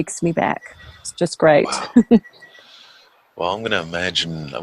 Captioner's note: chuckles